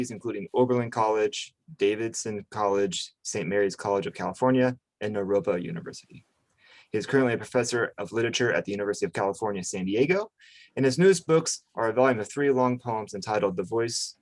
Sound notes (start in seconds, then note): none